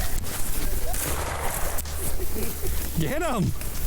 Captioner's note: gunshot rings out